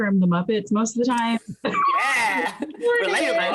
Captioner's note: laughing